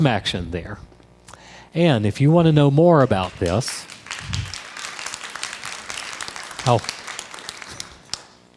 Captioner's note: crowd applause